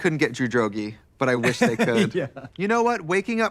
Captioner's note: laughing